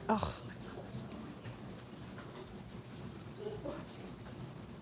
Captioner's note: crew member scoffs